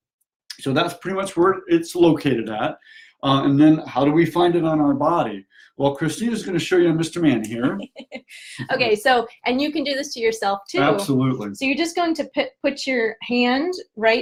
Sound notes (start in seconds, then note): 7.6 laughs